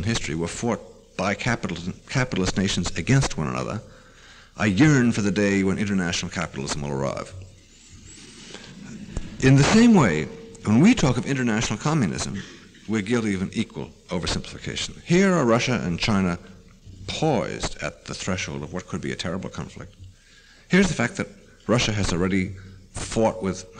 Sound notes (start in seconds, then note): 8.6 laughter